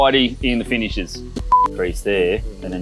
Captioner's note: beep